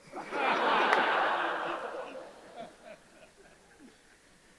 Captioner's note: audience laughs